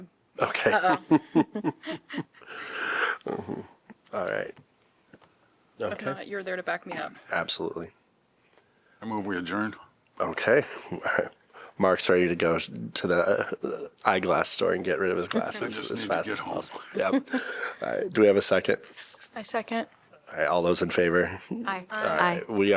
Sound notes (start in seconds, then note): 0.6 laughter; 16.8 laughter